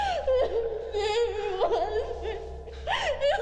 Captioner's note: Julie crying